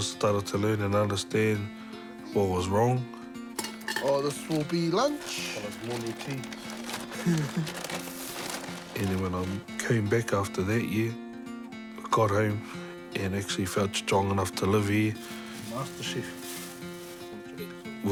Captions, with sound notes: I started to learn and understand what was wrong. Oh, this will be lunch. Follows morning tea. (CHUCKLES) And then I came back after that year, got home and actually felt strong enough to live here. MasterChef.